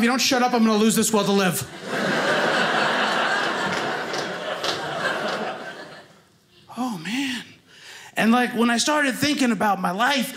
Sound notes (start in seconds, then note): 1.7 audience laughing